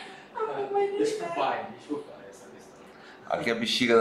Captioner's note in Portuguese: risos